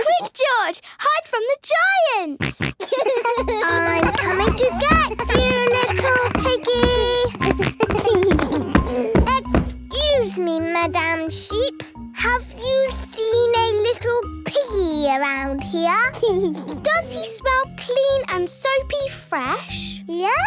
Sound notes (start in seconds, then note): 2.4 giggles, snorts; 6.8 giggles